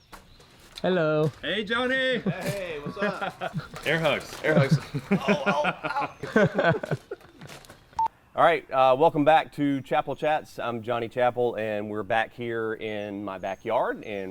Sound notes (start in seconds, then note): 5.0 laughing